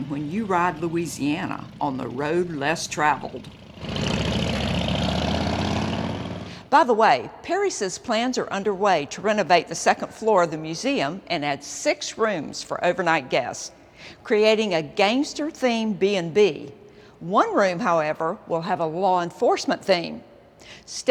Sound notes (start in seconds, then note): 3.9 engines roar